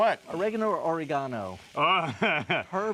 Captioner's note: laughs